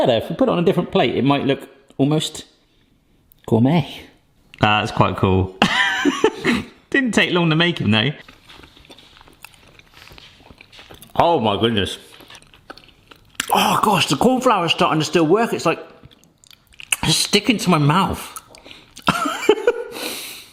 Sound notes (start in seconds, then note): 5.6 laughs; 8.2 mouth chewing; 19.0 laughs